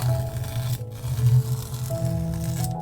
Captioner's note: peeling off masking tape sounds